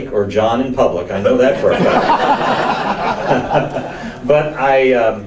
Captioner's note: audience laughs